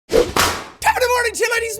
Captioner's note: whapoosh